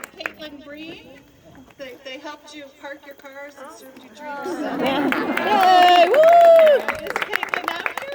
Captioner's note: applause, scattered laughter and cheers